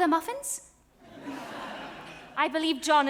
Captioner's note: audience laughs